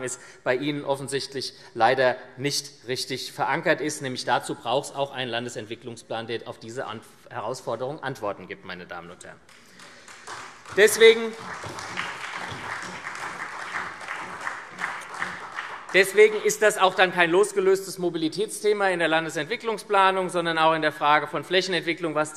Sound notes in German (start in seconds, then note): 9.5 Beifall SPD